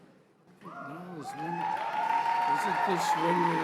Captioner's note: cheers and applause